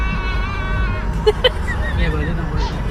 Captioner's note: laughing